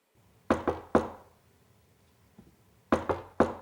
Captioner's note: knocking